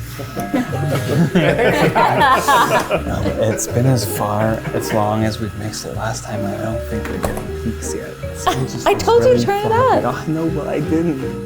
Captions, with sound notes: (all laugh) - It's been as long as we mixed it last time and I don't think we're getting peaks yet. - I told you to turn it up. - I know, but I didn't.